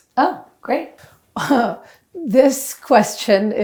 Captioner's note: laughing